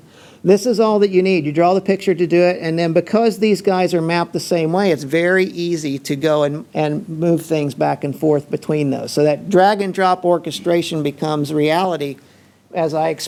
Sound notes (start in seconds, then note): none